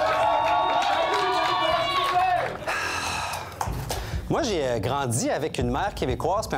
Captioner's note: shouts and applause